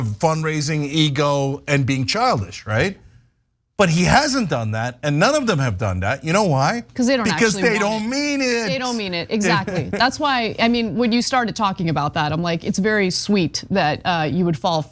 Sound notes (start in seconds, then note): 7.2 laugh